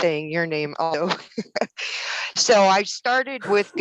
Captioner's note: laughs